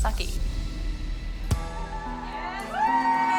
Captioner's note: applause and cheering